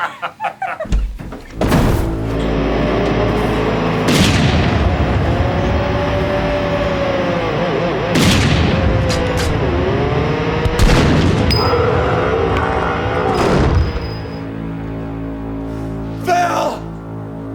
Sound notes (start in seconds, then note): 0.8 door slams open; 2.1 dramatic music playing; 3.4 gunshots; 11.6 screams in pain